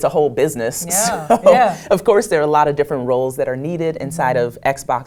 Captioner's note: laugh